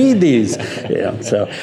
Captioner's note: laughing